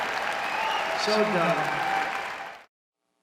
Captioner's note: cheering and applause